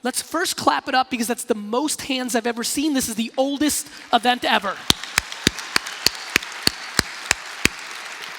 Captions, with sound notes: Let's first clap it up because that's the most hands of ever seen, this is oldest even ever. (applause)